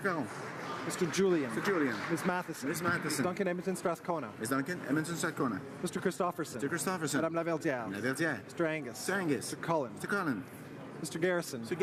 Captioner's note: calling of recorded vote